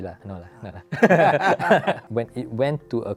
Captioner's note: laughs